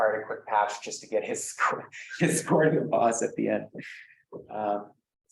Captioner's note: laughs